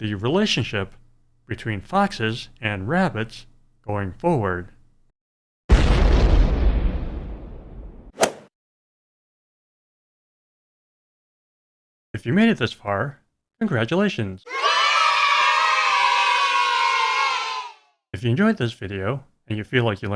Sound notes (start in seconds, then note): 5.7 explosion; 8.1 swoosh; 14.4 kids cheering